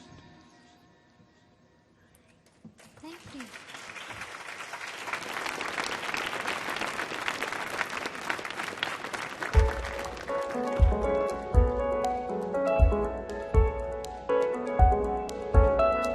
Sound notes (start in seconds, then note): 2.7 audience clapping; 9.5 ambience piano music